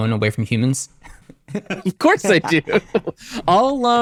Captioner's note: laughs